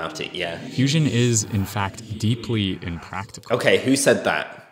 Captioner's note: ghostly voice